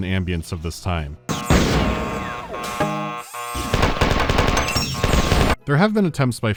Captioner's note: gunfire over an annoying alarm sound